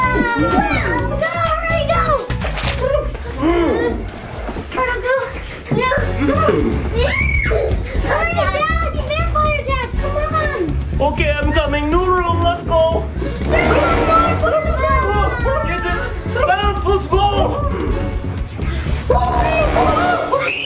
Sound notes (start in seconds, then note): 0.1 screams; 2.3 portal goo squelching; 3.3 blue rainbow ghost growling; 7.0 screams; 13.1 suspense music; 17.6 rainbow ghosts growling; 20.4 screams